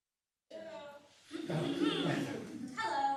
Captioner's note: chuckling